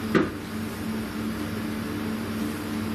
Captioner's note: thump